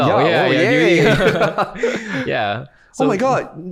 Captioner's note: both laughing